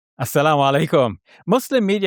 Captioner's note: foreign language